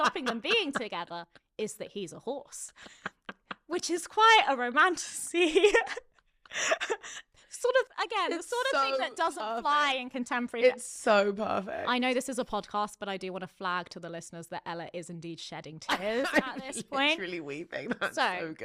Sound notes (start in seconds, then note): 0.0 laughing; 5.4 laughing